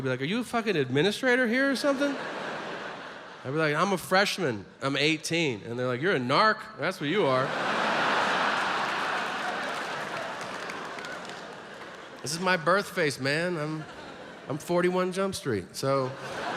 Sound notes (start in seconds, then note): 7.2 audience laughs